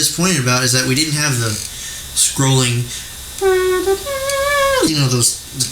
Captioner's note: mouth trumpet sounds